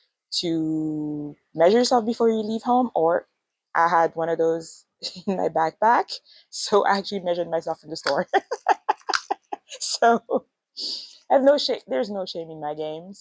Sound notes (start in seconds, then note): 8.3 laughs